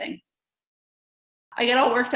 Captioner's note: silence